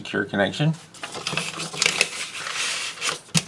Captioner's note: paper rustling